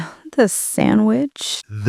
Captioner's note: sigh